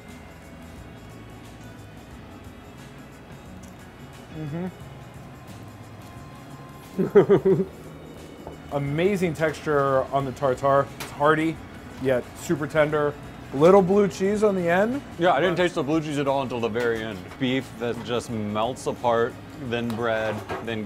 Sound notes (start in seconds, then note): 0.3 smooth, jazzy music; 6.9 laughing